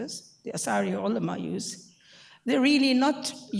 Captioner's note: speaking in foreign language